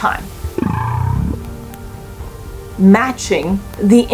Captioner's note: whale vocalizations